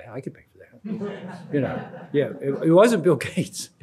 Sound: crowd laughs

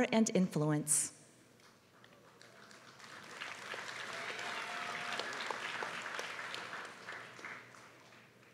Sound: applause

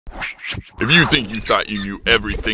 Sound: voiceover

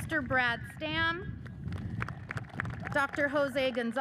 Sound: audience cheers and applauds

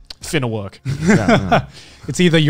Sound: chuckles

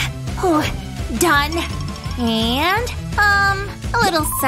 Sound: groans

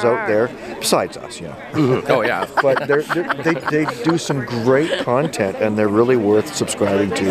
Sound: laughing

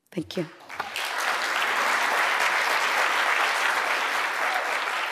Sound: applause, cheering

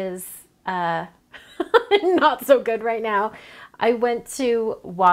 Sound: laughs

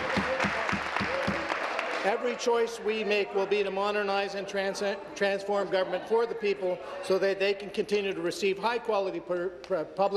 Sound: applause

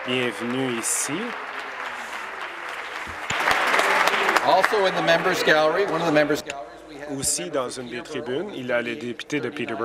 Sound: applause

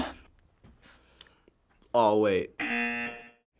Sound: gulping and sighing; buzzer

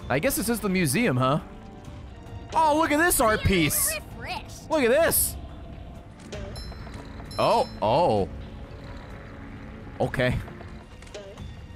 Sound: laughs

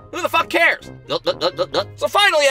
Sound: gulp - gulp - gulp

